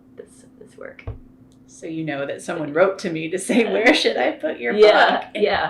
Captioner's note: laughter